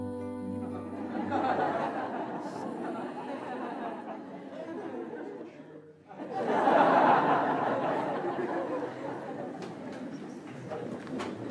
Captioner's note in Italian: Risate